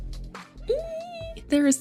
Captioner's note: exclaims excitedly